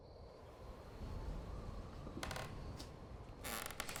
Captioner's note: wind whistling